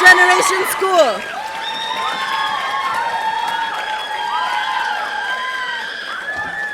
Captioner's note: audience applauding; audience cheering